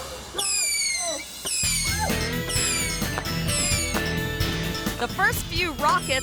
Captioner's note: firecrackers booming